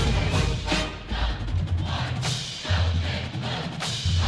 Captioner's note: cheering